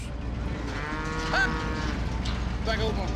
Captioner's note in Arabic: خرور الأبقار